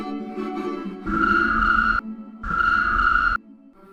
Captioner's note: chirp! chirp!; instrumental music fades out